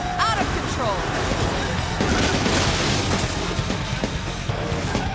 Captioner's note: car crashes